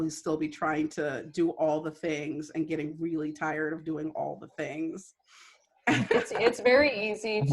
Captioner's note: laughter